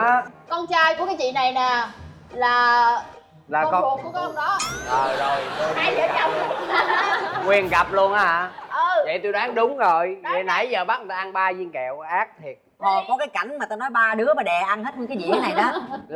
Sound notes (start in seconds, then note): 4.9 laughing